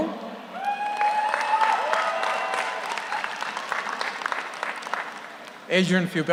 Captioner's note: audience cheers; audience applauds